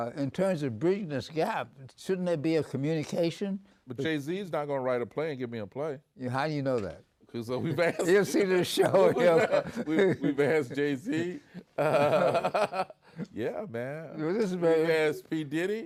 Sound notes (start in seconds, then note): 12.7 they both laugh